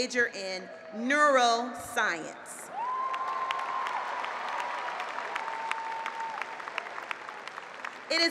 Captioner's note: applause